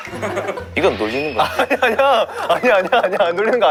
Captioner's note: Scratch